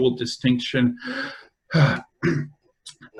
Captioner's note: fast breath